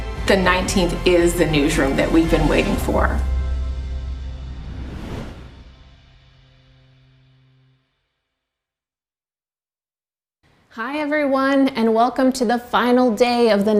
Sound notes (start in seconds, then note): 4.9 wooshing